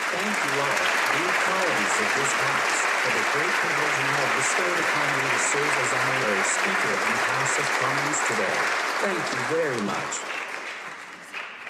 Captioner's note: applause